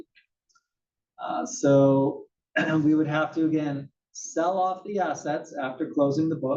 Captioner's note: cough